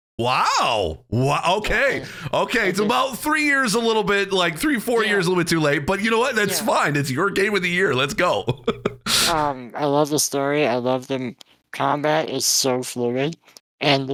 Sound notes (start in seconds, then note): 8.5 laughing